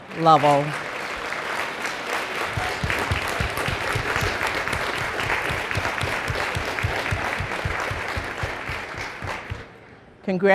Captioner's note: applause